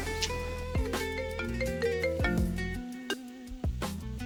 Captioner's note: phone rings